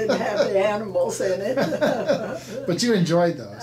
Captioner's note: laughing